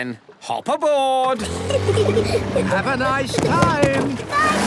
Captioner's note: children giggling